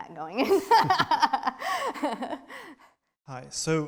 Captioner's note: both laughing